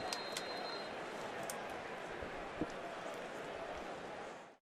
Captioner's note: whistle